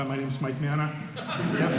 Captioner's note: laughter